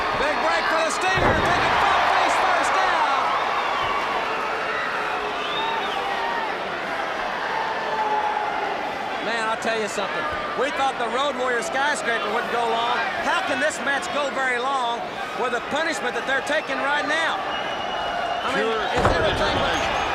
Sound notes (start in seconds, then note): 0.0 crowd cheering; 3.4 crowd chatter